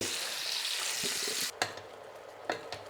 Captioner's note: sizzling sound